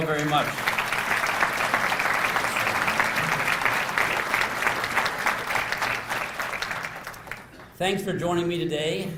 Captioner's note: applause